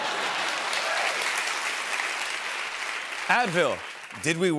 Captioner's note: applause; laughter